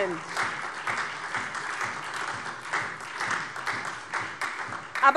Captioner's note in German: Beifall SPD